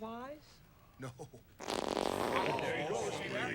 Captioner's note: farting sound